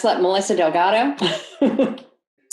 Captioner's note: laughs